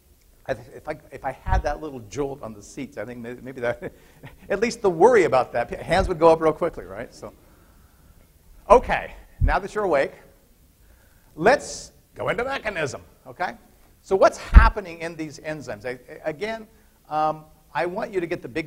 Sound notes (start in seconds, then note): 4.2 laughter